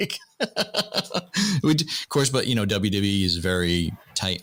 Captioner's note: laughter